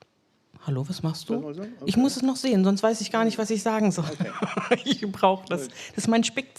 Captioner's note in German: gelächter